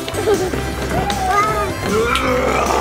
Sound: giggles

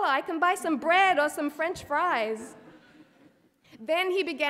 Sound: audience laughing

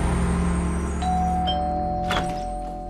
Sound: doorbell chimes

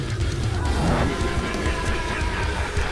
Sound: screaming; laughing

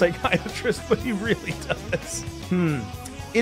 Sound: laughs

